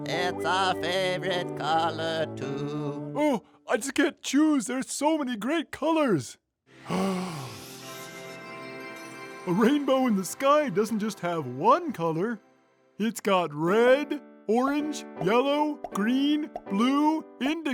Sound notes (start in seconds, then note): 6.9 Rainbow gasps